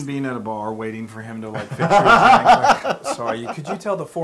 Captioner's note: laugh